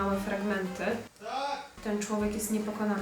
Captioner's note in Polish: krzyk